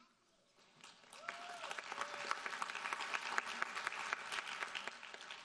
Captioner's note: audience applauding